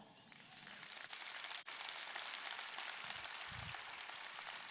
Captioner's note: audience clapping